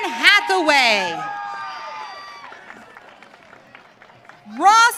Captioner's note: audience cheering